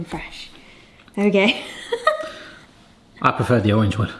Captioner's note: chuckles